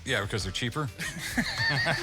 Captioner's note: all laughing